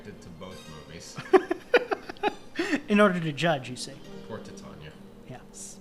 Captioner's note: giggling